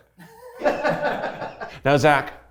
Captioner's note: everyone laughs